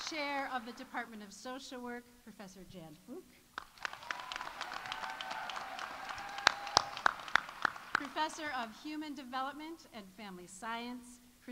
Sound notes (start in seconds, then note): 3.5 audience applauding; 3.7 audience cheering